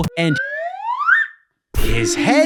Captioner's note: whistles